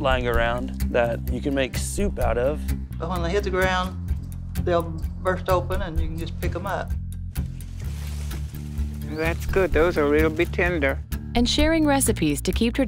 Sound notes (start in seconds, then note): 7.4 leaves and grass rustling